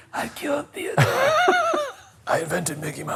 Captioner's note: laughing